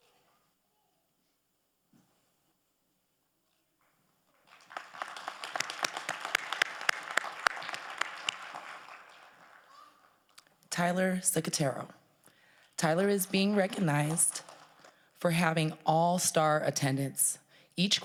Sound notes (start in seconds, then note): 4.4 crowd applauding